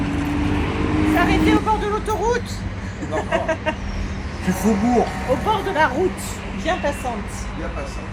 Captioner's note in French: rires